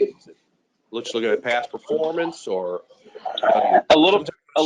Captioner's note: speaking faintly